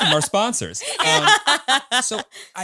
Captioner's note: all laughing